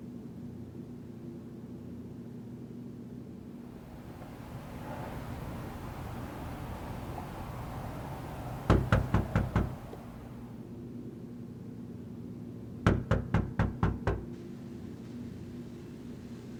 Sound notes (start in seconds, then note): 3.6 traffic buzzing; 8.7 door knocking; 12.8 door knocking continues